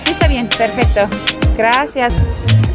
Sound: in Spanish

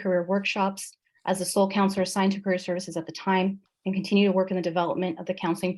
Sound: speaker talking too fast

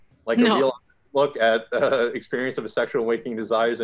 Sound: chuckles

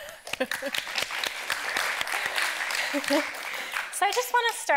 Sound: audience clapping

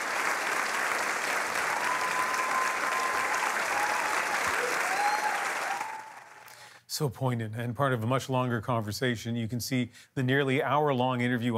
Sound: applause

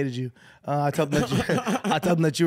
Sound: laughing

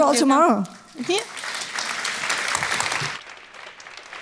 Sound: applause

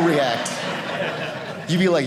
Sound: audience laughing

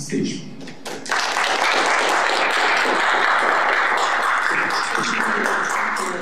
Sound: applause

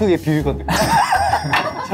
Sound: bursts out laughing

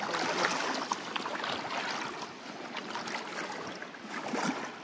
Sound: water splashes

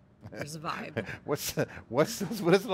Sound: chuckles

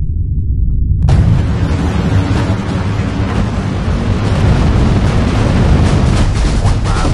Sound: rocket Launch Sound Effects; space music

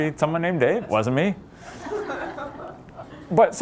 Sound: laughter

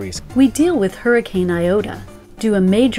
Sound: voiceover

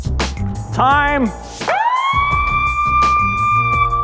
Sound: loud siren

